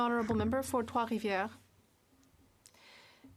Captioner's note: speaking French